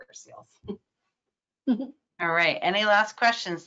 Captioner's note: chuckles